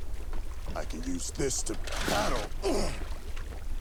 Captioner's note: grunting